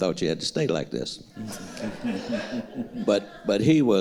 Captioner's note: audience laughing